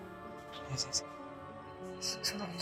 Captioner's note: whisper